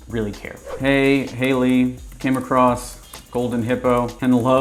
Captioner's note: keyboard typing